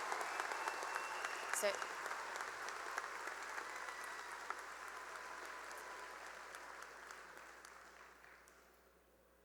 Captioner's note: cheering and applause